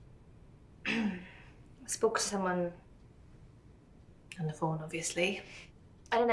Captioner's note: clears throat